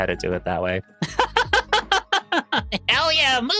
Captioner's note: laughing